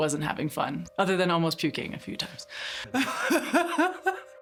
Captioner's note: laughing loudly